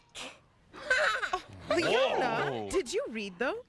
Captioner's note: giggles